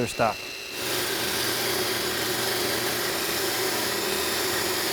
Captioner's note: machine grinds